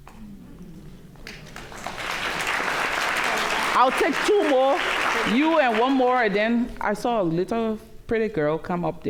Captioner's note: applause